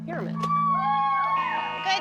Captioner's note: cheering